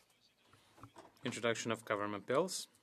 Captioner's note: speaking French